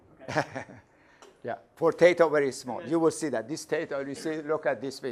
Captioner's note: laughs